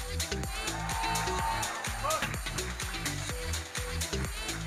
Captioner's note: audience cheering